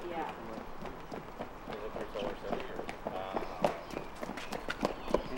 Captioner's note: sounds of kids running and chatting